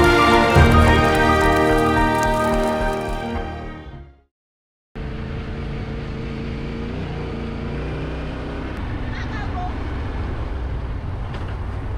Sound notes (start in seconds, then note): 5.0 motorcycle engine roaring